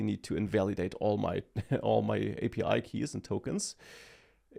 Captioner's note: laughs